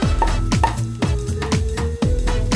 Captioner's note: corks Popping